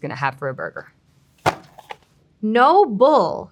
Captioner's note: packaging thudding